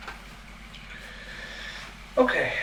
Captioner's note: breathing in meaningfully